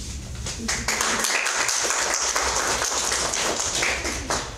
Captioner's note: audience applauds